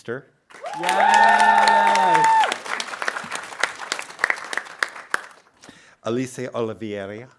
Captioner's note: audience cheering and applauding